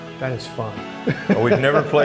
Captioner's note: laughs